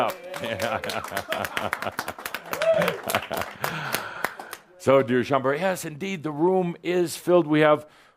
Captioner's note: a few “Yays” and some claps